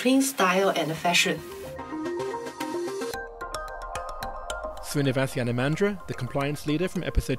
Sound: voiceover

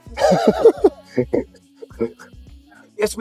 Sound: laughter

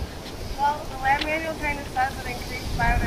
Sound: voiceover

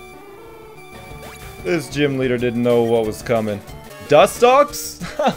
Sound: laughs

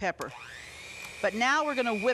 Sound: mixer mixing

